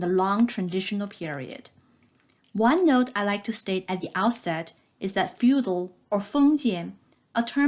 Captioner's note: click